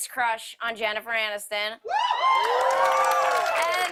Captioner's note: cheers and applause